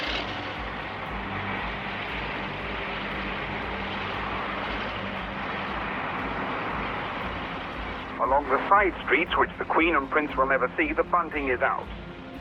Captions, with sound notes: (soft thoughtful music) (truck humming) Along the side streets, which the Queen and Prince will never see, the bunting is out.